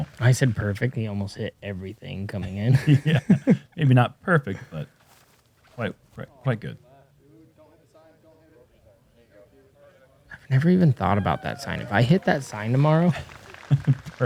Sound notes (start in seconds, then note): 2.4 laughter; 13.6 laughs